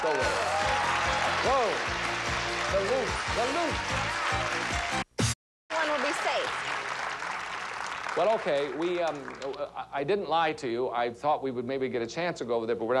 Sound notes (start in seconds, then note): 4.0 audience applauding